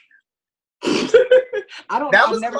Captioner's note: laughs